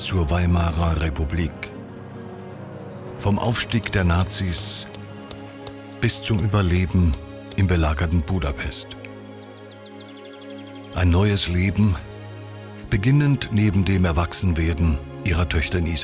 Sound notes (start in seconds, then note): 4.8 hammer tapping; 9.6 birds chirping; 12.8 triumphant music